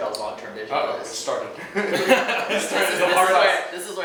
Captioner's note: laughs